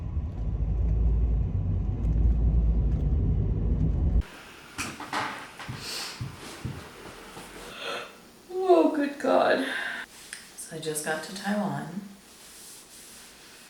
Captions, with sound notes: *yawns* Oh, good god! So, I just got to Taiwan.